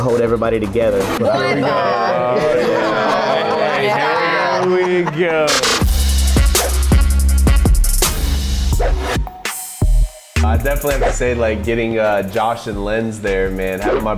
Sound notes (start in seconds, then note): 0.9 mass disagreement; 5.3 upbeat pop music; 8.7 cool electronic music